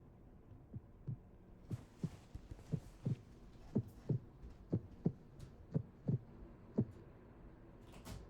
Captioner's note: heartbeat rhythm